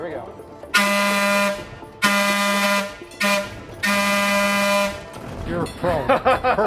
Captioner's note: blows horn